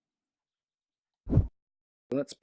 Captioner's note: whoosh